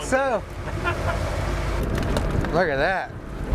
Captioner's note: laughs